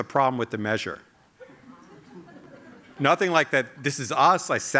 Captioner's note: laughter